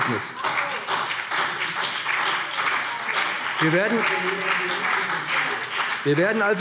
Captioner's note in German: Beifall BÜNDNIS 90/DIE GRÜNEN und CDU